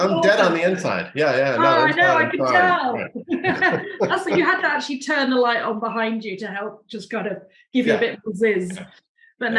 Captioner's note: laughing